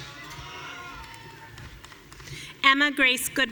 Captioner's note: audience cheering